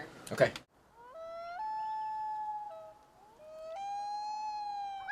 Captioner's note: wolf howling